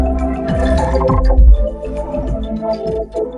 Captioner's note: glitched groaning; glitched, stuttered audio